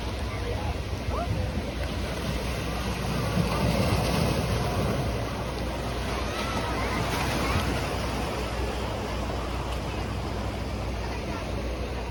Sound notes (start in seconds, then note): 0.0 ocean waves